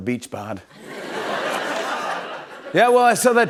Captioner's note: laughter